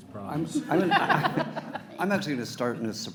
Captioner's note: everyone laughs